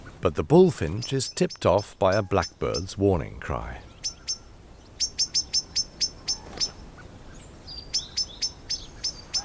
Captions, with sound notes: But the bullfinch is tipped off by a blackbird's warning cry. [bird chirping]